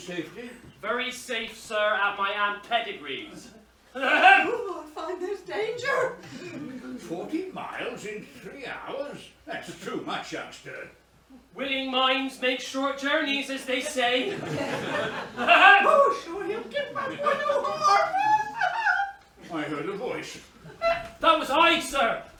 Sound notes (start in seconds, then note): 17.2 whimpers; 22.1 mrs hardcastle wails